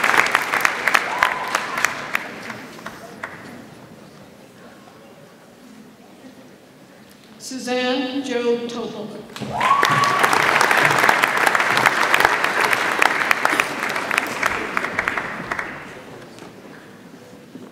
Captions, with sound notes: Suzanne Joe Topel. (audience applauds)